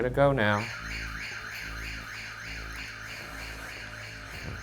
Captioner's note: siren blares